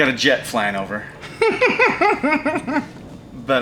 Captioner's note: laughs